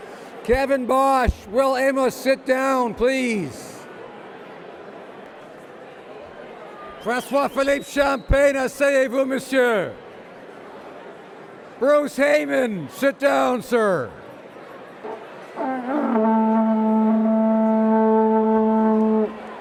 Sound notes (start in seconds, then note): 0.0 speaking French; 9.9 speaking French; 15.6 trumpeting